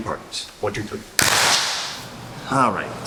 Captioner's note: clap